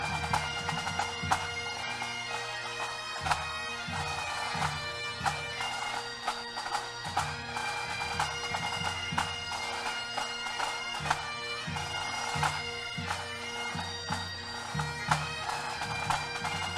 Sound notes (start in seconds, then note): none